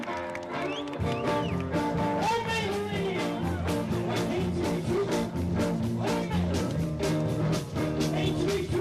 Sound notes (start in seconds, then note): 0.0 people applauding; 3.0 upbeat rock music